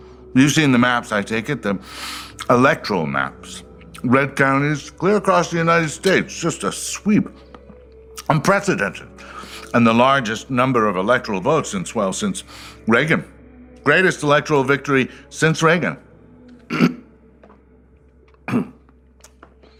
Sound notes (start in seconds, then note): 16.6 ahem